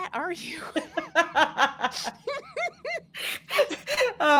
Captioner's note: both laughs